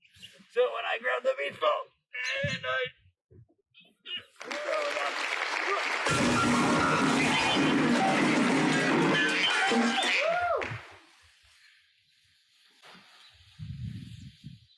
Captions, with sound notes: So, when I grab the beach ball...and I... [cheering] [crash]